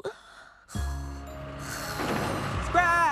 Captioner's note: light Snoring